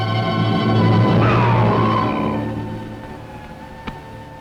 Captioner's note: groaning